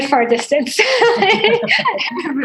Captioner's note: laughter